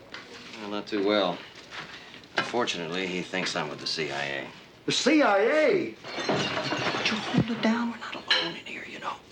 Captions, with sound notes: Well, not too well. Unfortunately, he thinks I'm with the CIA. The CIA? [dishes crashing] Would you hold it down? We're not alone in here, you know.